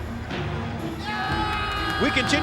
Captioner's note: crowd shouting